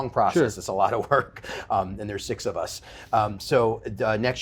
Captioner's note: laughs